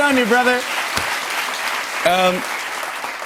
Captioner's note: cheers and applause